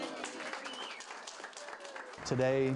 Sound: cheers

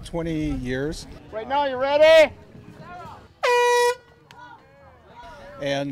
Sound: blow horn

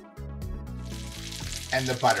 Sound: mixture sizzling

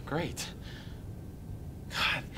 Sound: none

